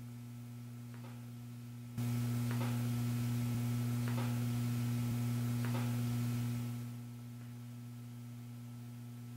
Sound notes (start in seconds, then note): 1.0 knocking